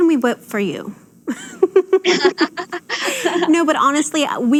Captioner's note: women laugh